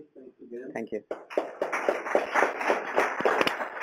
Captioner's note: applause